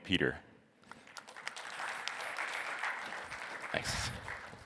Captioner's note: applause